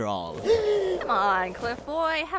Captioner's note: gasp